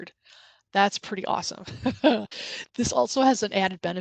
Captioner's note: laughs